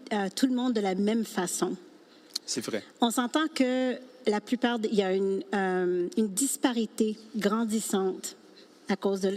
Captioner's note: speaking French